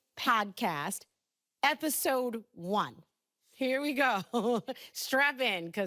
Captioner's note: laughing